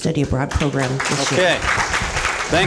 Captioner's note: applause